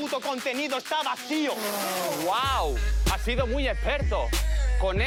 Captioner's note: snortings